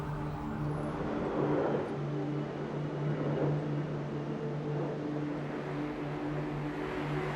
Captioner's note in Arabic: أزيز الطائرة